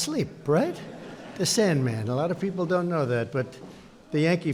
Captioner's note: laughter